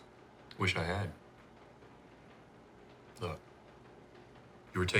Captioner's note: none